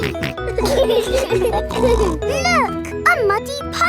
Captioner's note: laughing